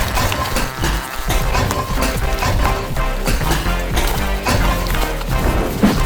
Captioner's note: metal Clanging